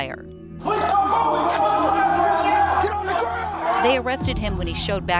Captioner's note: everyone shouting